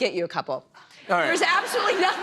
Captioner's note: laughter